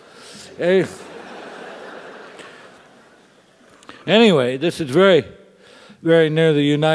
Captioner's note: laugh